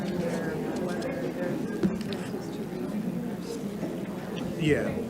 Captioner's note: faintly speaking